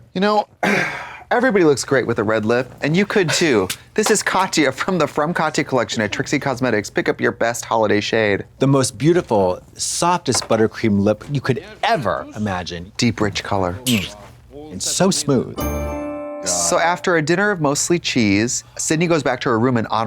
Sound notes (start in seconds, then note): 15.6 bright chime